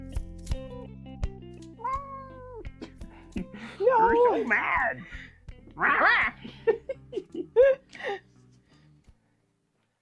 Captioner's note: cat meow